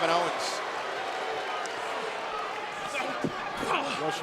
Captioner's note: wrestlers grunting; audience chattering